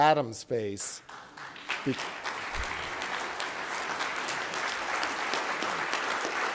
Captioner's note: applause